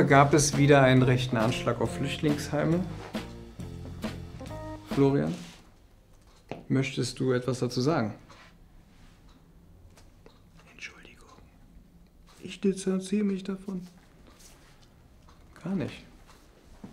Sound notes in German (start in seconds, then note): 3.1 Lockere Musik; 10.1 flüstert